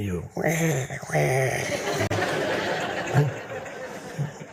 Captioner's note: audience laughing